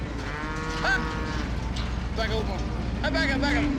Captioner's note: cows mooing